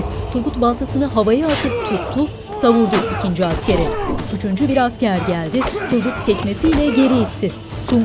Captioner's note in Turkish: Dövüş sesleri; Dövüş sesleri